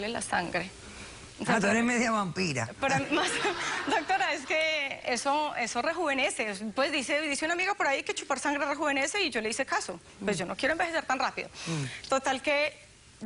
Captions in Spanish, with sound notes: PERO A MI ME GUSTABA CHUPARLE LA SANGRE. - !AH! TU ERES MEDIO VAMPIRA. [Risas] - DOCTORA, ES QUE ESO... ESO REJUVENECE. PUES, DICE UN AMIGO POR AHI QUE CHUPAR SANGRE REJUVENECE Y YO LE HICE CASO. PUES, YO NO QUIERO ENVEJECER TAN RAPIDO.